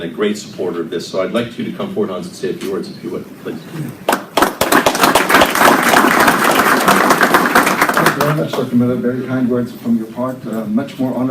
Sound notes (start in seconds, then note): 4.0 applause